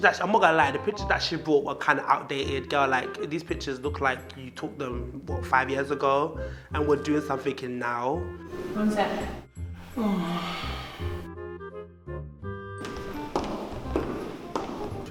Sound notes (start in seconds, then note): 9.8 moaning sound